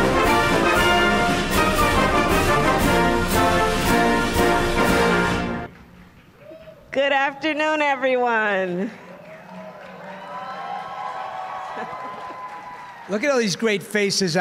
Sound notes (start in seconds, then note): 9.0 applause